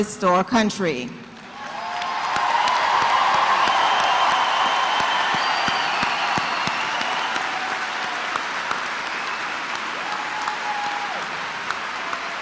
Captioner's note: cheers and applause